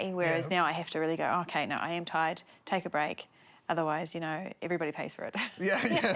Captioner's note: laughs